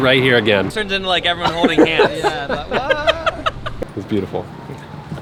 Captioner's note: laughing